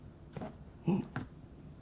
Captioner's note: flip flop